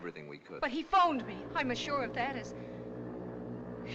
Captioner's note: foghorn Continues